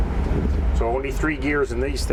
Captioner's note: engine revs